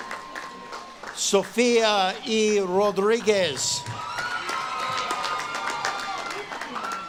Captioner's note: audience claps and cheers